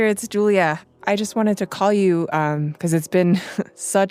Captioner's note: laughs